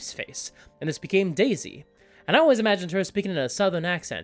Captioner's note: southern accent